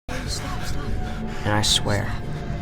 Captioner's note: panting